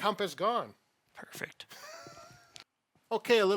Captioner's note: laughs